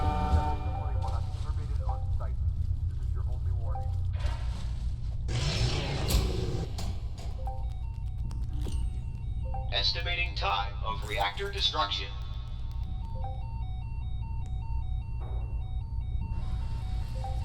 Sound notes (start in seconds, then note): 5.3 Speed Coil equip sound; 8.3 alarms